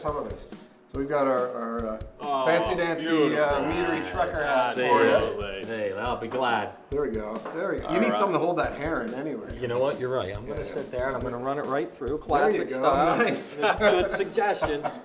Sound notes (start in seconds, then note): 13.1 laughs